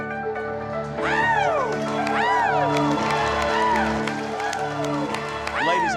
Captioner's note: cheering, clapping